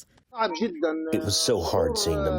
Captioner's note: through translator